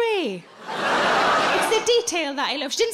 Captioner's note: audience laughing